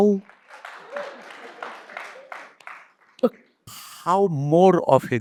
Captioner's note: audience applauds